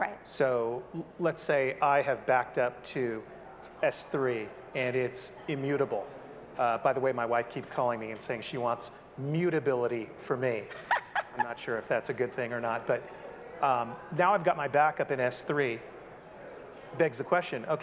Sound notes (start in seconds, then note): 10.7 laughs